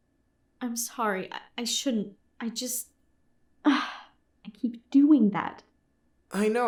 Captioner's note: sigh